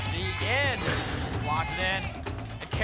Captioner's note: lock sound